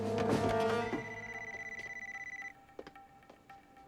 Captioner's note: beeping